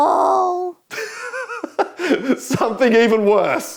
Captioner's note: laughing